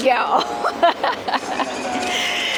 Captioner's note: laughing